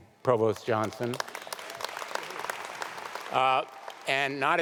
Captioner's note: audience applauding